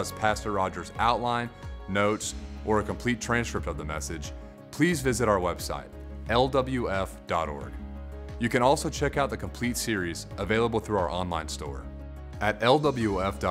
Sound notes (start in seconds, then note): none